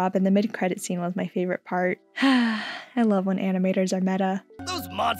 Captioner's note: sigh